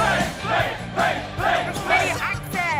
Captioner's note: fans chanting